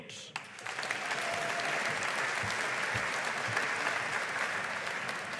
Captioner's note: audience applauding